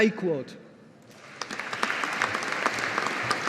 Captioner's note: audience applauding